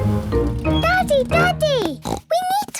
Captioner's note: snorts